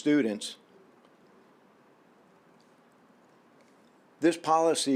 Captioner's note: silence